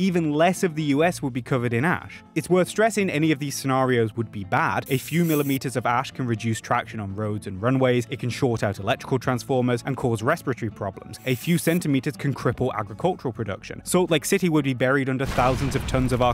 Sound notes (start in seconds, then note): none